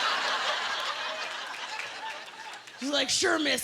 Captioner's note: laughter